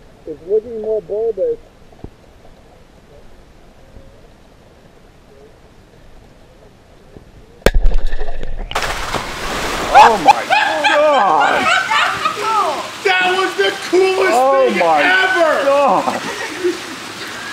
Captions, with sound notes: It's looking more balled [EXPLOSION] [Laughing], OH MY GOD That was cool That was the coolest thing ever OH MY GOD